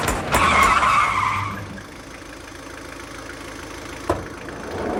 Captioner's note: tires screeching